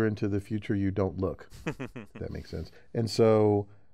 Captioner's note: laugh